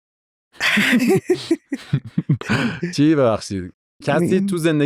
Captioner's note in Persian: خنده